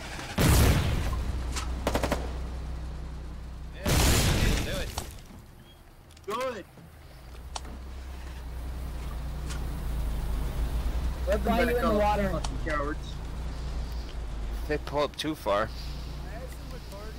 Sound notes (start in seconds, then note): 0.1 boom; 1.8 ratatatata